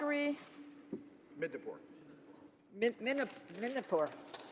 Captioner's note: speaking in French